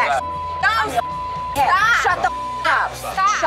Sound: beep

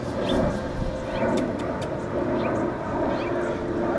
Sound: kissing sounds

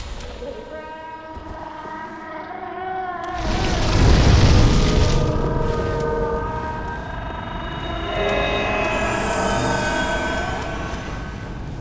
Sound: Oceiros screaming

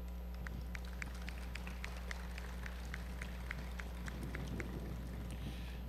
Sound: applause

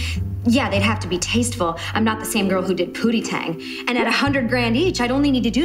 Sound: inner monologue

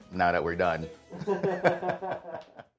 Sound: laughing

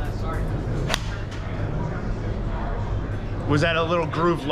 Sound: golf club whacks

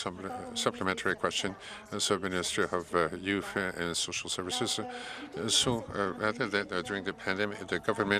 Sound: speaking French

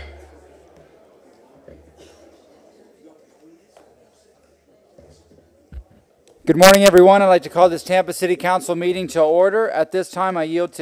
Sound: sounding gavel

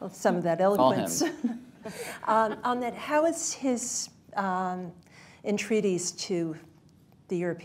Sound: laughter

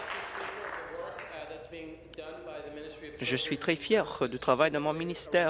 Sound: applause

